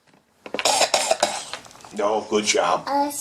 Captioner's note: SCARY coughs